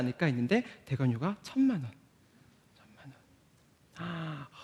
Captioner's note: sigh